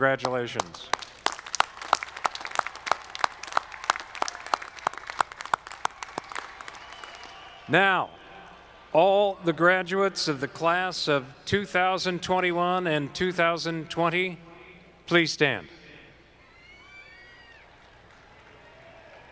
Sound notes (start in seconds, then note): 0.2 audience clapping